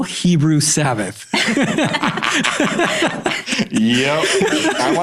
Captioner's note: all laughing